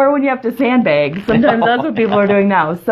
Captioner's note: laughs